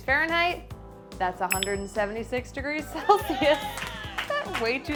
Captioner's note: clapping